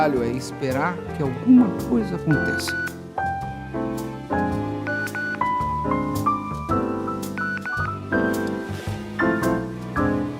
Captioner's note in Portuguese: celular tocando